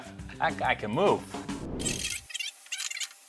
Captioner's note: air whooshing